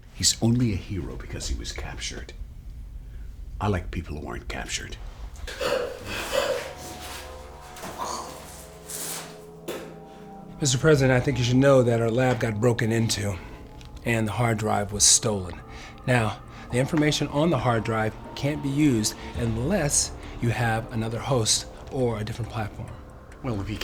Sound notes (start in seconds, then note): 5.6 Martin wincing; 5.9 eerie music